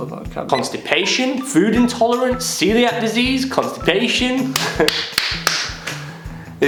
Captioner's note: laughter